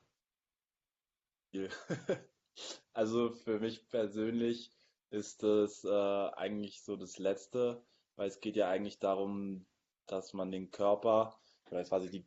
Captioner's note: laughs